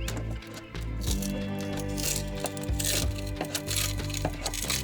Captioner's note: fiberglass crackles